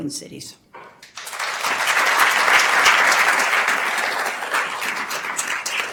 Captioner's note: attendees applauding